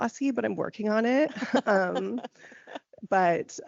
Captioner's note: laughing